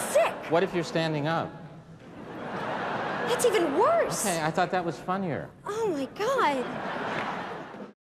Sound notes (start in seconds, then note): 2.0 laughter; 6.6 laughter